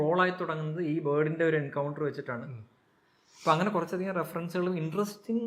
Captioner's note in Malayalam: ചീറ്റുന്നു